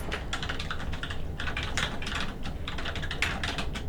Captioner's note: typing